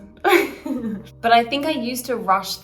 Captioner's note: laughs